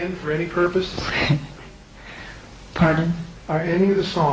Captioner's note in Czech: směje se